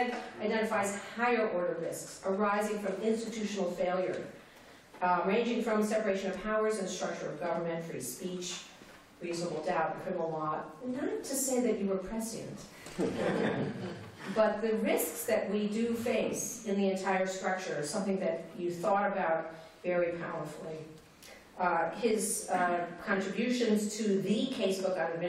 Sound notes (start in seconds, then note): 12.9 laughter